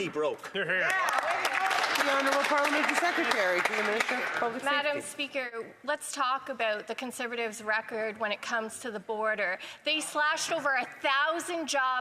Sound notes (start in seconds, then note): 5.4 some Applause